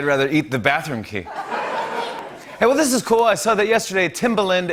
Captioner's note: laughter